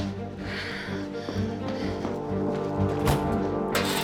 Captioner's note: breathing heavily